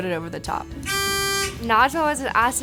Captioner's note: buzzer